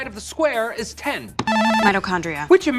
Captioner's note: buzzer sound